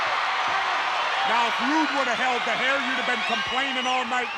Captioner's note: applause